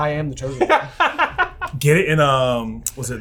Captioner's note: laughing